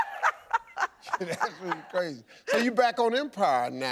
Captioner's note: laughs; chuckles